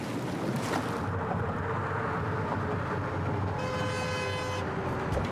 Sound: water Sounds

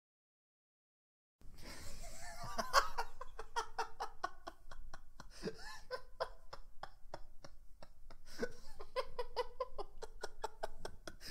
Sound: mad laughter

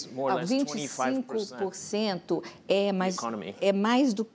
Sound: speaking portuguese

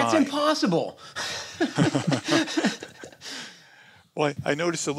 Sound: laughter

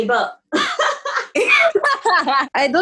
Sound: laughs

